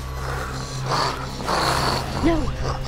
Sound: Selina growls

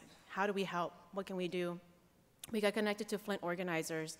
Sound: none

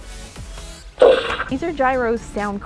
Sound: portal gun fires

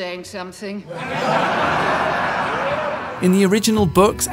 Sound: laughing

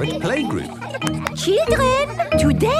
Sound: clapping

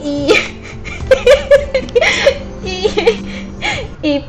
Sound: laughs

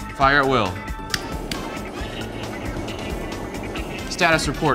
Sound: torches whooshing

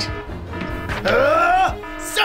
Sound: screams

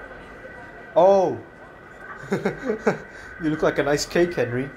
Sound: chuckles

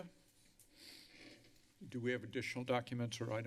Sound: mouse clicking; breathing heavily

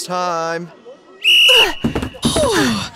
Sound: blows Whistle

